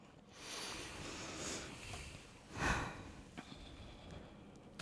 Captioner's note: breathes deeply